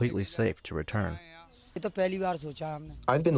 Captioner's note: through translator